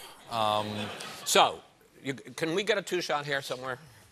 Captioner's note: laughter